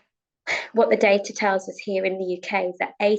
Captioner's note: sighs